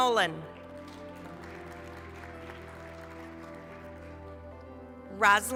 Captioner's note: applause